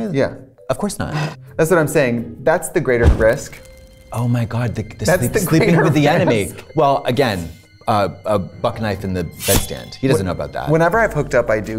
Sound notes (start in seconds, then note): 2.9 fire crackling